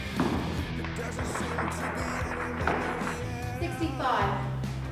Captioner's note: audience clapping